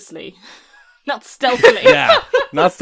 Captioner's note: laughter